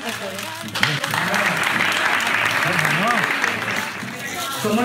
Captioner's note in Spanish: aplausos